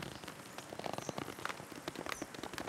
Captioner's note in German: Knackgeräusche